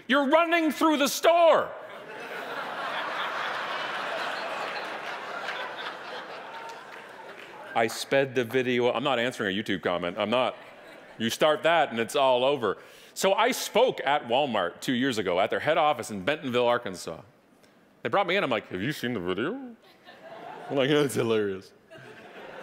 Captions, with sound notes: you're running through the store. (audience laughing) I sped the video, I'm not answering a YouTube comment, I'm not, you start that and it's all over. So I spoke at Wal-Mart, two years ago, at their head office in Bentonville, Arkansas. They brought me in and I'm like, have you seen the video? (audience laughing) They're like, yeah, it's hilarious.